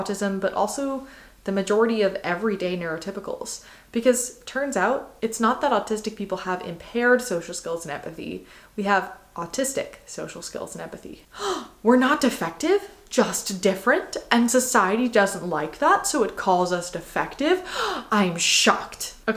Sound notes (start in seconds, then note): 11.3 gasp